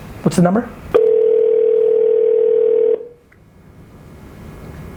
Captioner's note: phone rings